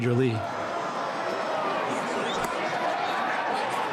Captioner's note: crowd cheering